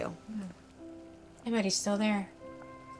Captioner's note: sighs